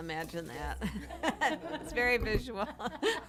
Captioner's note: laughter